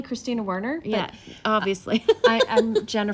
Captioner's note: laughs